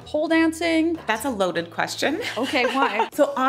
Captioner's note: laughing